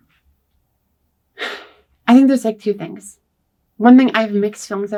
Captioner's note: sighs